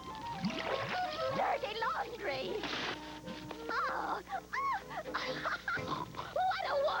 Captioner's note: snorts